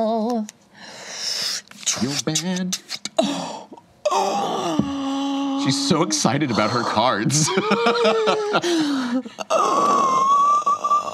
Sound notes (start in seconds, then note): 3.0 gasps; 10.0 laughs